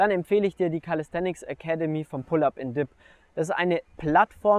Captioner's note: German speaking